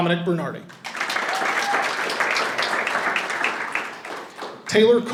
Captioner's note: audience applauding and cheering